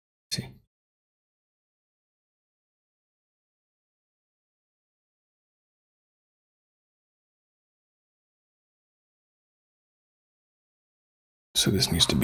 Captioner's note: blank Audio